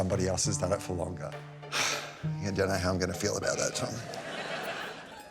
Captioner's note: sighs; laughter